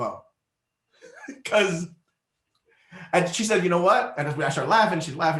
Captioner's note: laughs